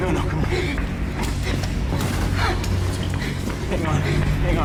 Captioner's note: dana panting